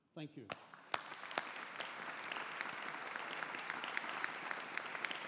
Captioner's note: audience applauding